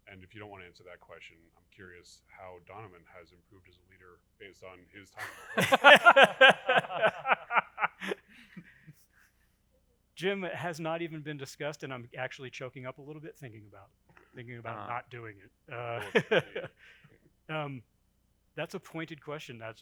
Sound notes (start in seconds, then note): 5.2 panelists laughing